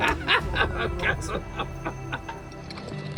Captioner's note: laughing